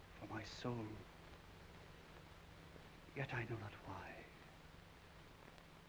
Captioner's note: none